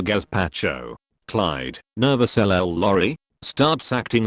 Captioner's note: nervous